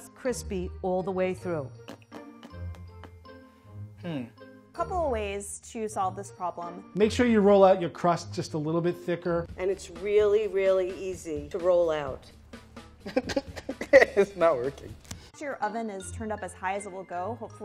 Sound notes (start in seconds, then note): 13.1 laughs